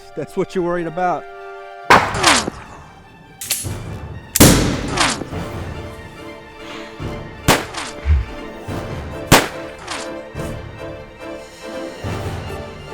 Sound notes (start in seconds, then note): 1.9 gunshots banging